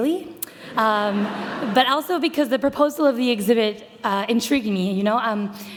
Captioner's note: audience laughter